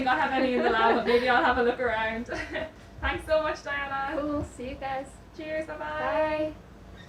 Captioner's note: laughing